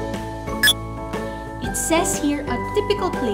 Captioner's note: Mind-blower clicks